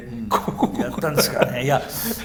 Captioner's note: laughs